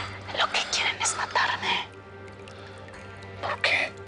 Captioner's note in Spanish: Susurra